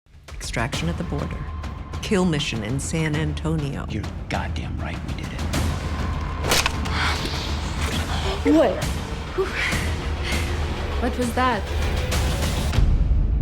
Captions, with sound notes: - Extraction at the border. Kill mission in San Antonio. - You're goddamn right we did it. (gun thwacking) (Cruz panting) (Aaliyah panting) - Wait. - Whew (chuckles). What was that? (dramatic music)